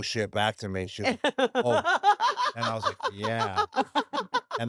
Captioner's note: laugh